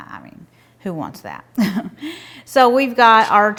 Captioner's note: laughing